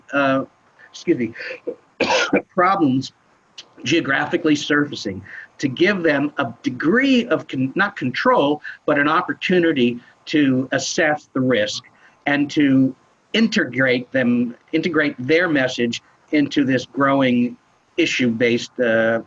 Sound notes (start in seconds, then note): 2.0 coughs